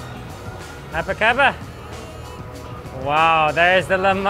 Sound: speaks in foreign language

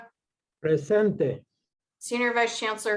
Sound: speaking foreign language

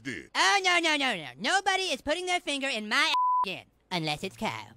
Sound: beep

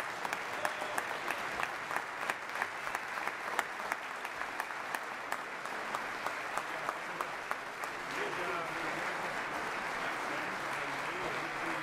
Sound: applause

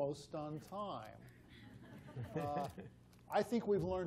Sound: laughter

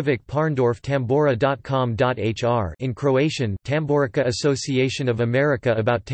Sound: in Croatian

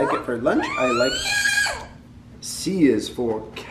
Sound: squealing

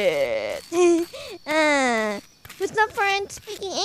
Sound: laughs

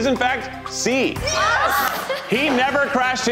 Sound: contestants cheer

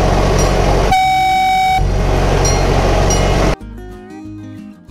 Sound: train horn toots

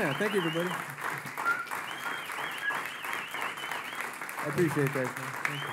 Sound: applause

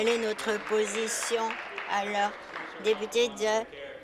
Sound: applause

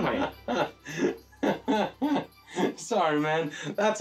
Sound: Isaac laughing

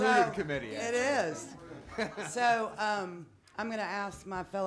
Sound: people laughing

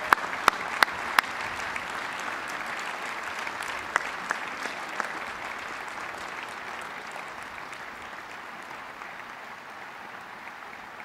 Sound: cheers and applause

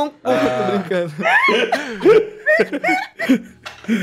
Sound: laugh

